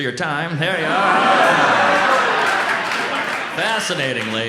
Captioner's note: audience laughs